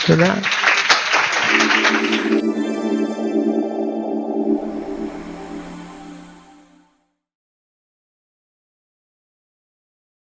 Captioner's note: applause